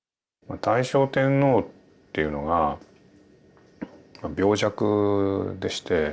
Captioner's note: speaking in Japanese